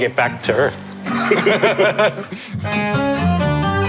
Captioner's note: laughing